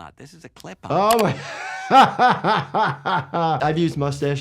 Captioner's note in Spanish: risas